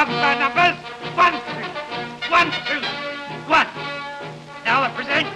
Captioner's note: man shouting